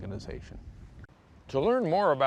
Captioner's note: none